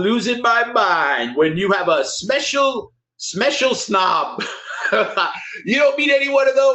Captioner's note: laughs